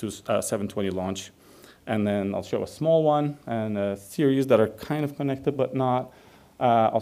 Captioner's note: none